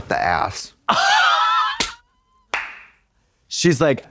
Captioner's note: Katya wheezes